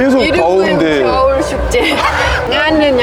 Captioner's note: laughing